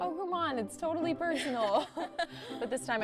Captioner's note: chuckling